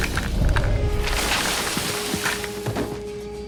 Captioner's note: crashing